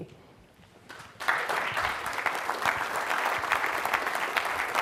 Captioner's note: crowd clapping hands